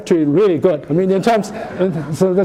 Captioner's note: laughter